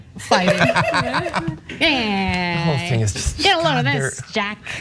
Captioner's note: laugh